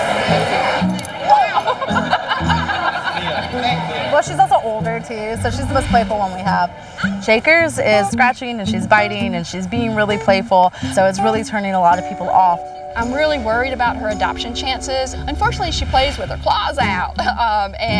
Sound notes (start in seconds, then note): 0.4 woman laughs